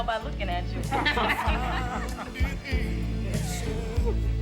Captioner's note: group laughs